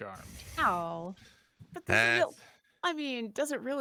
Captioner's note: groans